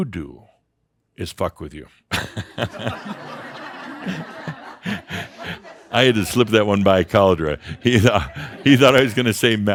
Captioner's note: laughter